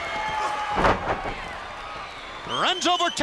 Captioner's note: body thuds